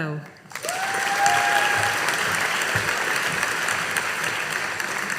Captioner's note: audience applauding